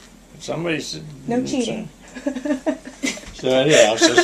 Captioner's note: laughter